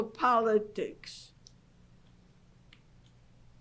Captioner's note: pauses for 3 seconds